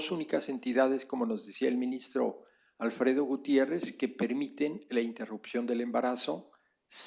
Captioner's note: spanish; spanish